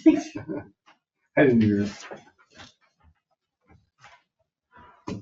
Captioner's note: people laughing